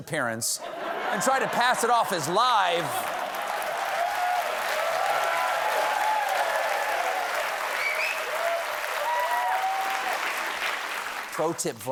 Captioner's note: cheers and applause